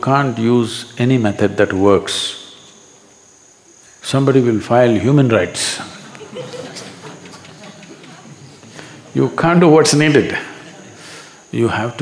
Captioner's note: few laugh